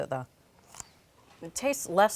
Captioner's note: pickle crunching